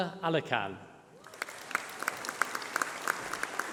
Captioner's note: applause